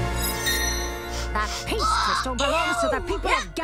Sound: TV playing

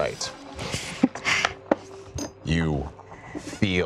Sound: laughing

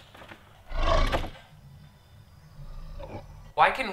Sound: ghost shark growling

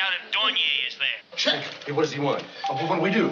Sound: doorbell ringing

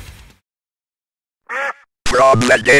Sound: quack

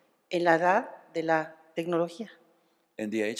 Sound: speaking spanish

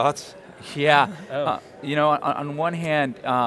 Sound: laughs

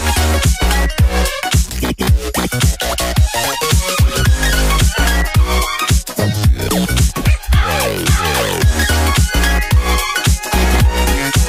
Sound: cough, cough

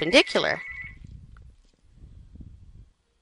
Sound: sound of Phone Ringing

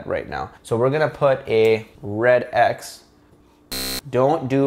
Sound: buzzer buzzing

